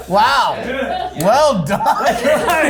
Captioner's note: group laughs; crew members laughing